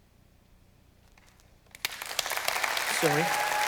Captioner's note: applause